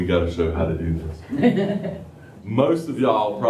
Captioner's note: laughter